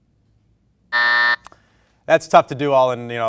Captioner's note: beep